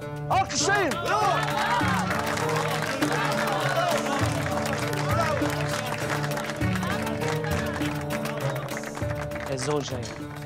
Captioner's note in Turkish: Alkışlıyorlar